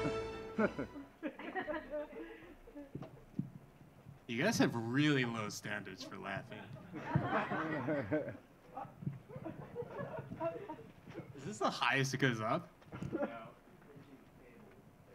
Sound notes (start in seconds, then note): 0.0 audience laughing; 6.6 audience laughing